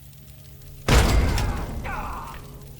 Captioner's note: boom!